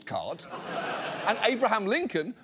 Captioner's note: studio audience laughs